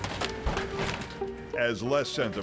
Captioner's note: loud crunching